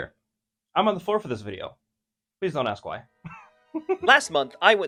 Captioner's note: giggles